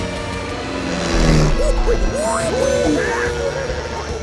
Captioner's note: animal sounds